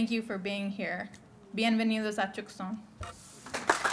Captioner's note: speaking spanish; applause